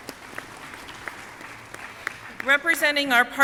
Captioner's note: audience clapping